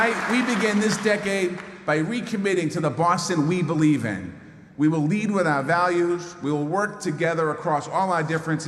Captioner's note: applause